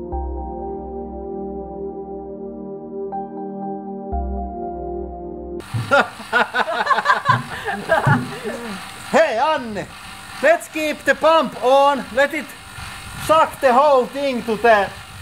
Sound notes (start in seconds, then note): 5.6 both laughing